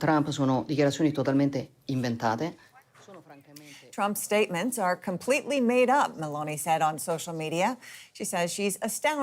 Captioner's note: speaking Alternate Language